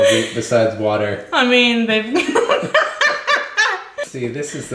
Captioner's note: laughs